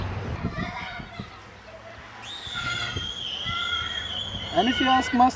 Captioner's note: children playing